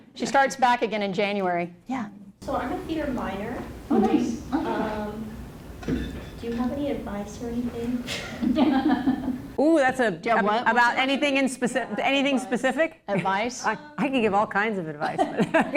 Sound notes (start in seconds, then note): 8.2 laughter; 15.1 laughs